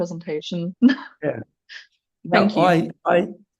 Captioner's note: laughs